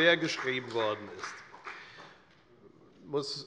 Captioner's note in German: Beifall bei der FDP